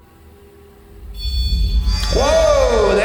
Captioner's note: REM-Pod beeping